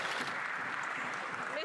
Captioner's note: some Applause